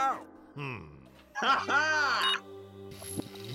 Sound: beeping

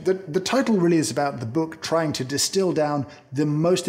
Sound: none

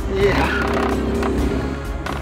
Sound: laughs

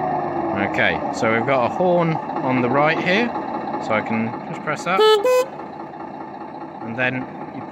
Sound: horn noise

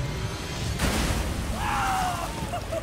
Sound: yells

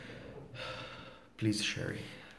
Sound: sighs

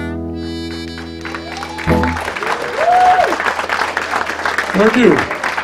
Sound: applause

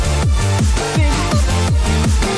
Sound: glitch noises

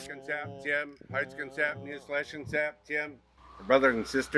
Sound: indigenous language

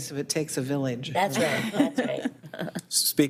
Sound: board members laughing

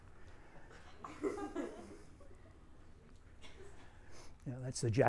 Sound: student laughs

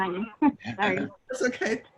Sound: laughter

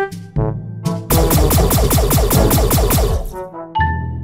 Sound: more blasting

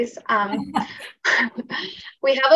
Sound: chuckles

